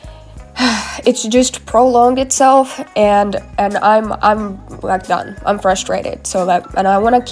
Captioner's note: sigh